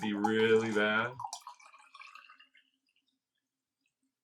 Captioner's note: wine burbling